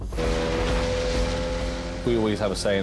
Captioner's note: engine roaring